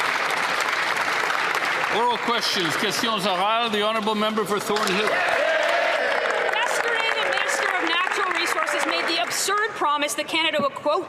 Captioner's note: applause